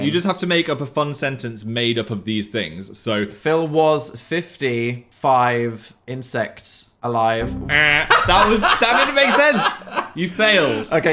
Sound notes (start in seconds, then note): 7.7 laughs; 7.8 mimics buzzer